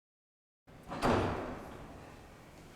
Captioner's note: door closing